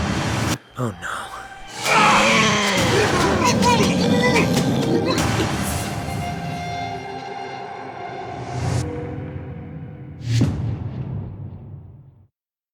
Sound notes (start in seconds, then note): 0.0 grunts; 2.4 creature growls